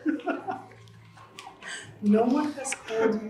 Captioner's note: laughter